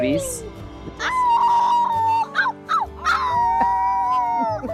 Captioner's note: children howl